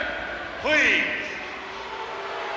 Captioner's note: crowd booing